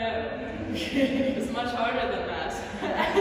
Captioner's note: laughter